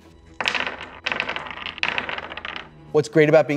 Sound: dice rolls

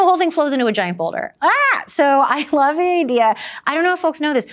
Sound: exclaims

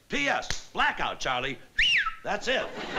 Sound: whistles

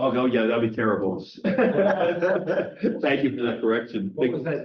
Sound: chuckle

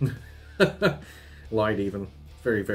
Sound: laughs

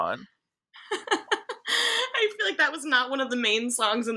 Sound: laughs

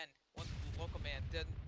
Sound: interrupted by EXPLOSION

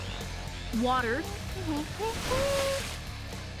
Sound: humming

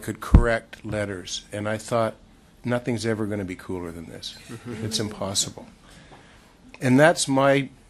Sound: laughter

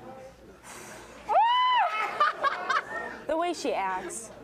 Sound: cheering

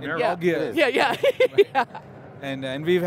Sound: chuckling

